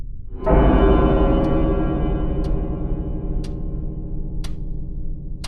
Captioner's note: clock chime